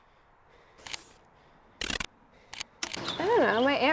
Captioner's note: transition clicks; transitions clicking